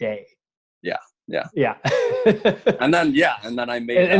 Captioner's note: laughing